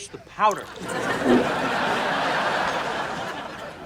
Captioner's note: laughs